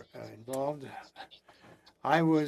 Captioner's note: speaking French